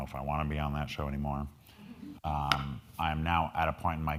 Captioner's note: crowd laughing